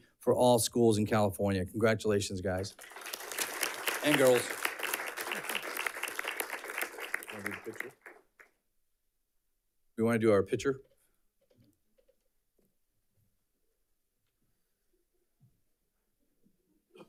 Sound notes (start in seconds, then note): 2.5 audience clapping